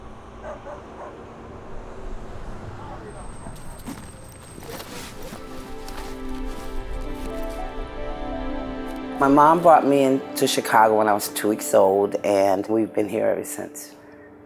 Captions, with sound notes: (dog barking) My mom brought me into Chicago when I was two weeks old, and we've been here ever since.